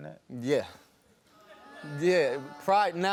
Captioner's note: audience groans